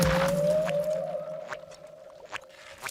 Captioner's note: creepy whistling